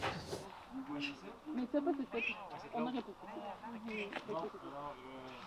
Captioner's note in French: léger brouhaha de voix